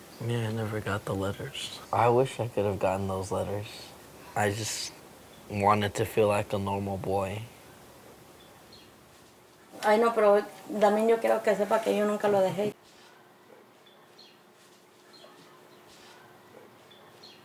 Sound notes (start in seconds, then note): 9.8 speaks in foreign language